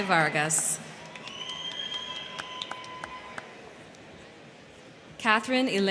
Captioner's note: crowd cheering; crowd clapping